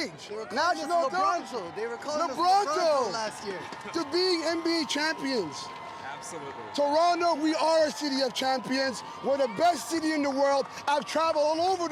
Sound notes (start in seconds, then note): 4.9 cheers